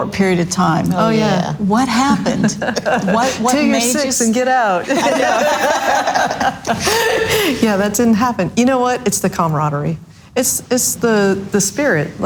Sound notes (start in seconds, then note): 4.8 all laughs loudly